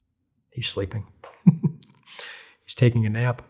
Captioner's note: laughs